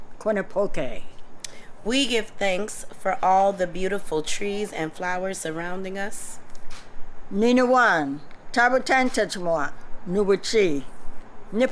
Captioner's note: non-english speech